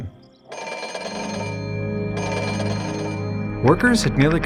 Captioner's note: phone ring